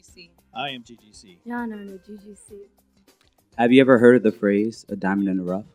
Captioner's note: in Malayalam